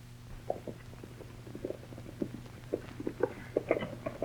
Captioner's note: hooves clatter